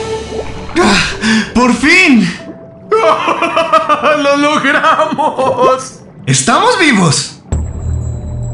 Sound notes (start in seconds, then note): 2.8 relieved chuckle